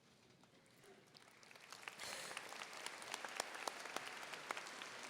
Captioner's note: audience applauding